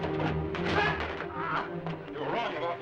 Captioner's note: dramatic music; Sam grunts